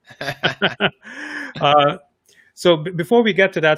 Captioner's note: laughs